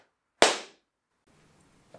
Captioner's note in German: Klatsch!